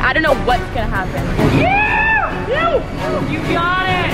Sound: spectator screaming

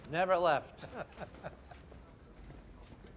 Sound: laughs

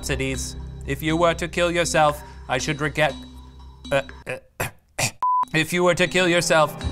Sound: coughs

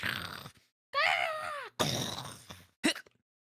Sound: mimicking Bird Sound; exertive Grunt

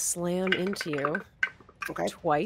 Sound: dice clatter

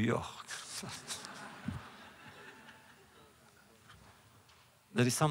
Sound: laughter

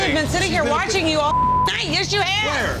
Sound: beep

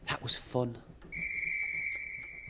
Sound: guard whistle blows

